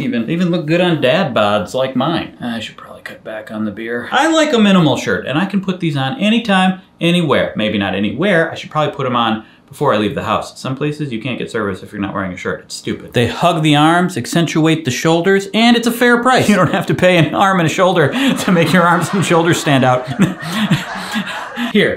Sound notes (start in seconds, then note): 18.0 audience laughs